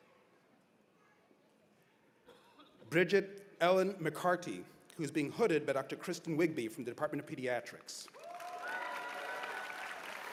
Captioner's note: cheers and applause